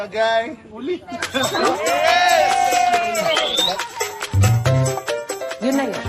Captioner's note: laughing, cheering; lively music playing